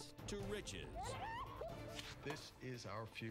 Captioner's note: laughing